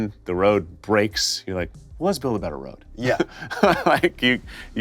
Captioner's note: laughs